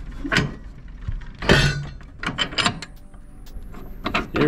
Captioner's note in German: Hebel klirren